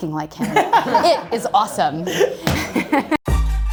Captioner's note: group laughter; hip hop music